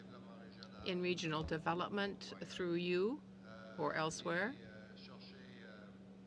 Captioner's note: speaking French